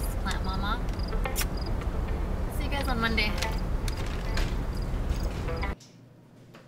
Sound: kissing sound

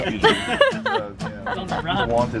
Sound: laughing; cheery music

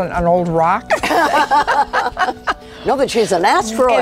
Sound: laughing

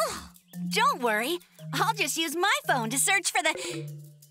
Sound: gasping

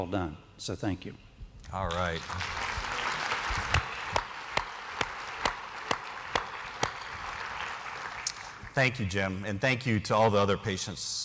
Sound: applause

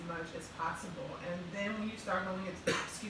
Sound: coughs

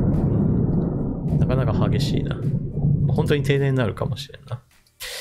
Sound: thunder

